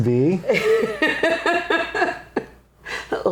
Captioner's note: laughing